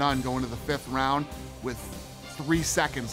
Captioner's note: none